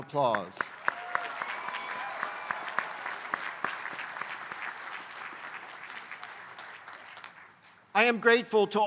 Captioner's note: applause